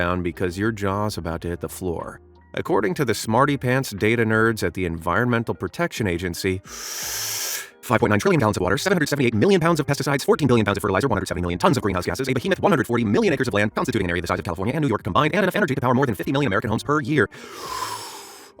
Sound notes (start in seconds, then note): 6.6 takes a deep breath; 8.0 reading quickly; 17.3 takes a deep breath